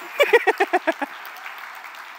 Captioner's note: applause